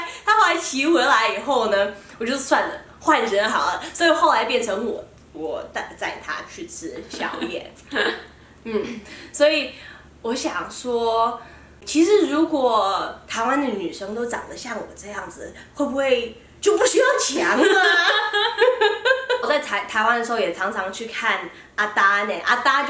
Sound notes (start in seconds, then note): 17.5 laughter